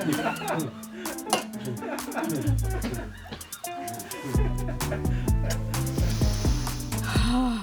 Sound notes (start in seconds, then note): 0.0 crew laughing; 4.9 deeply inhales and exhales